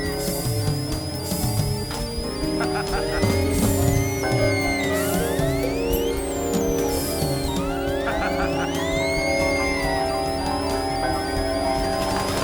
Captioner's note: screams; twisted laughter